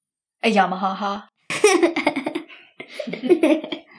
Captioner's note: Esther and grace giggling